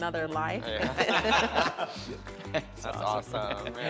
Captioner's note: all laugh